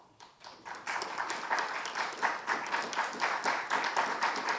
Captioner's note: audience applauding